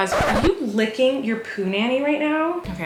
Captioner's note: record scratching